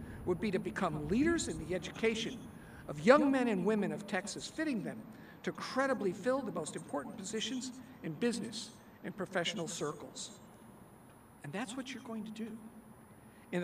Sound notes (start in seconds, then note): none